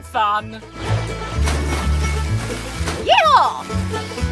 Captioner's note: water splashes